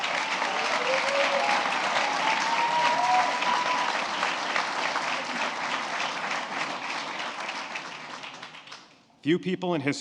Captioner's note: applause